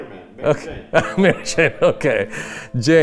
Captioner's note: laughing